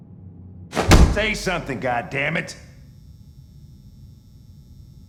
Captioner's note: slam